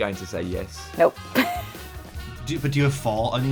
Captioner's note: laughs